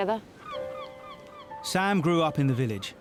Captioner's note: birds chirping